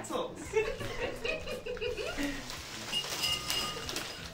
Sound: giggling

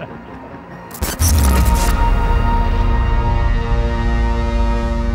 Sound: both laughing; electrical buzzing; dramatic, intense music

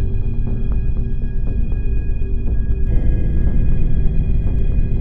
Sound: none

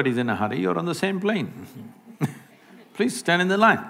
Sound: laughs

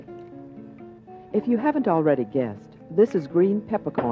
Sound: voiceover

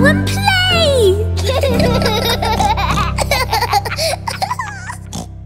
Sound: laughter; oink

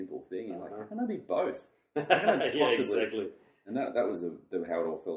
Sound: laughs

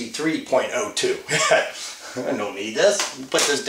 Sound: laughs

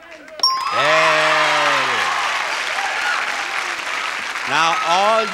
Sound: bell dinging

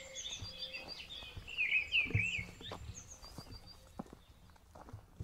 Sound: birds continue chirping

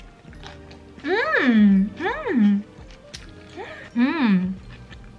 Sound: the sound I make when something tastes so good

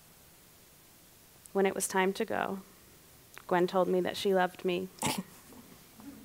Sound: laughs

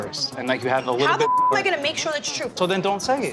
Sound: beep

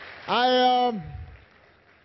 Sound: applause

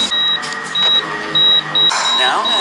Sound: heart monitor beeps faster

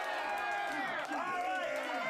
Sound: audience cheering

